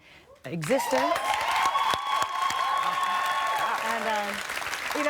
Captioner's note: cheers and applause